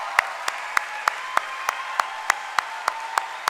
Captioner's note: applause